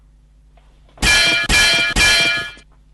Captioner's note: bang, bang, bang